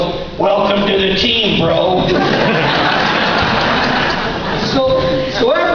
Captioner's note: laughter